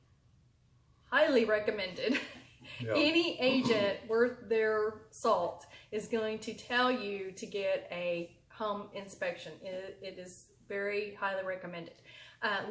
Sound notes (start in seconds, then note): 2.4 laughs